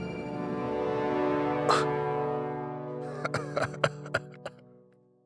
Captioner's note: groans, chuckles